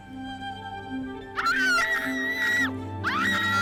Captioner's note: screaming